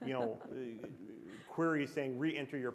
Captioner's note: chuckle